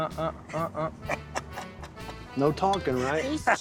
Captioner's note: laughing